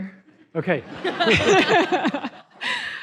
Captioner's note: laughter